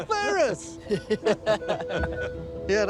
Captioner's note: laughter